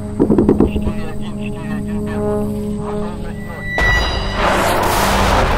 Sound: radio exchange

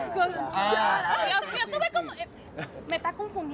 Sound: Hablan al unísono

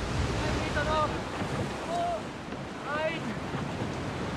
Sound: sailors shouting

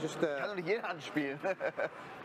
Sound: speak german

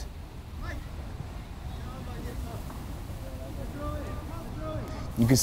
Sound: players talking and yelling

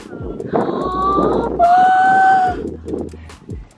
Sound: gasps

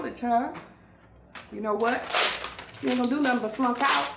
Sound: paper ripping

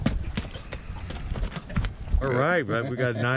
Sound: fish thrashing

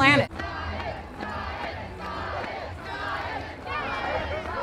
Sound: chanting

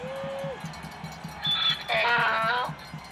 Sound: braying

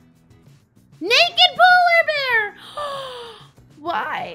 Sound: big gasp

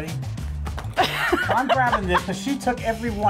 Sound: laughs

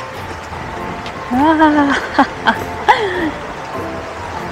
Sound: laughs

